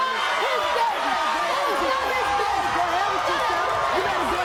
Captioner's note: audience screaming